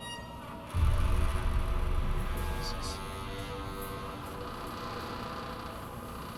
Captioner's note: door creaking